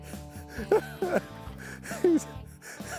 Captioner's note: chuckling